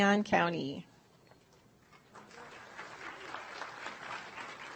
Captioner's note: audience applauds